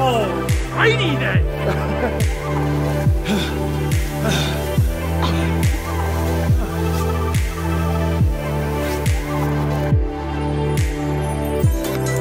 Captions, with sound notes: Alrighty then! *Panting*